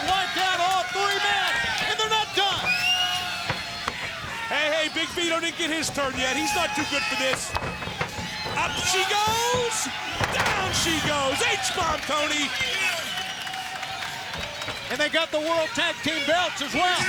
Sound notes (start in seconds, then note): 13.1 crowd cheering